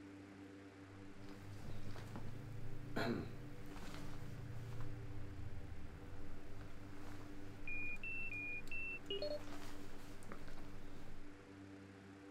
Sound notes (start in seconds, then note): 2.6 Parker coughs; 7.2 container beeps and unlocks